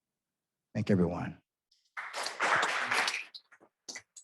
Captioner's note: applause